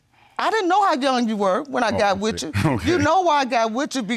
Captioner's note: scoffs